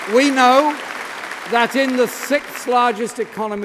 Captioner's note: applause